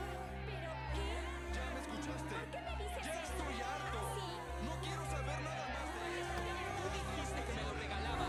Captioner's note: loud conversations